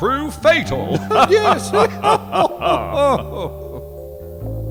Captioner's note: chuckles